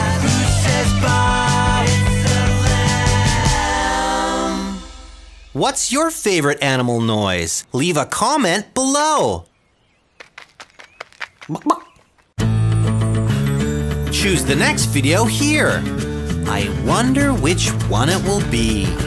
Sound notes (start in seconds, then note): 10.0 stealth lion sounds; 11.0 cluck, cluck